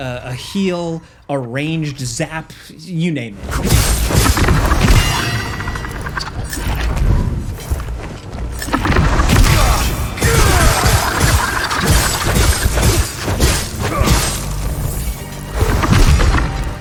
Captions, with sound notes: a heal, a ranged zap, you name it. (blows crashing and thudding) (Remi grunts)